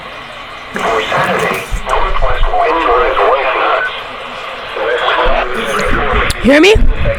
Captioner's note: radio voices